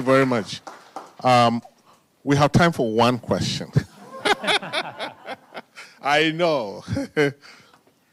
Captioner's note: laughter